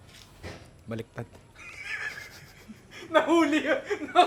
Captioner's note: chuckles